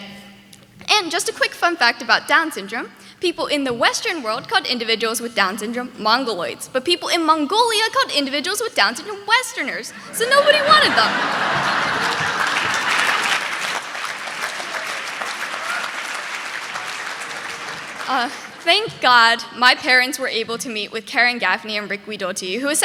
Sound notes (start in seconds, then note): 11.4 audience laughing; 12.2 audience clapping